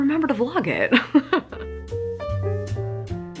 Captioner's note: laughing; jazz piano music